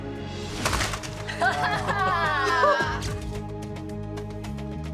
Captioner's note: laughter